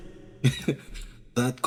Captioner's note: Arkat Laugh